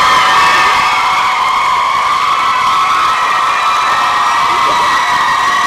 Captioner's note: applause and cheering